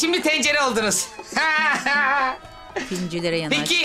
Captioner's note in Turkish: Gülme sesi